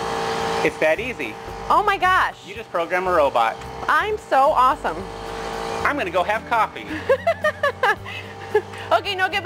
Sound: laughs

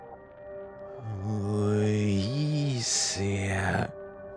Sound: backwards talking

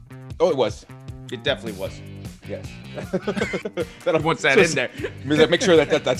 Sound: laugh

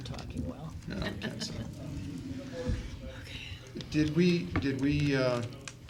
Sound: laughter

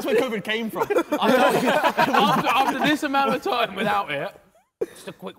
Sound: men laughing

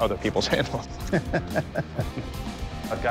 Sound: laughter

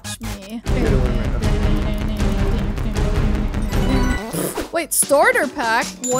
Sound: humming; tense rhythmic music

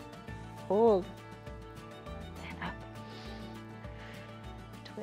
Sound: inhales and exhales

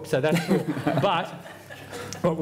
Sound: laughter

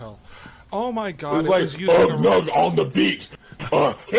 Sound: grunting

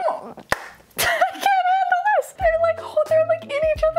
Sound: claps

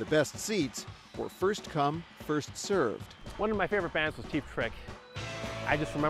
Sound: crowd applauds

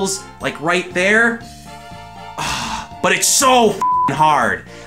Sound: sigh

